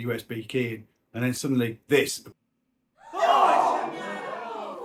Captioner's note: crowd Shock